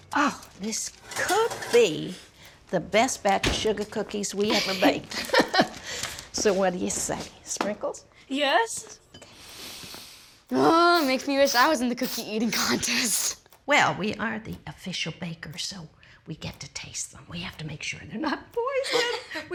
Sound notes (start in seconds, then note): 4.5 chuckles; 10.6 sniffs